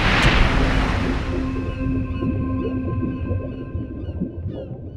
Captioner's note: gentle chiming